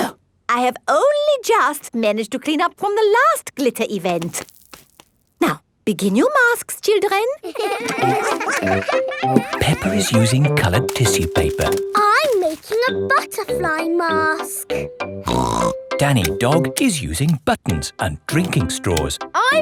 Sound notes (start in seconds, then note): 7.4 all giggling; 15.2 snorts